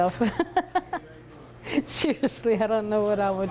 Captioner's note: laughs